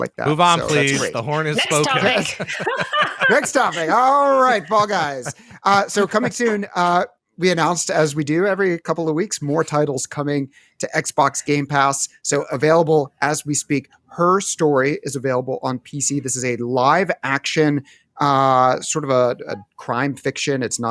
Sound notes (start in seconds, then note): 1.6 laughter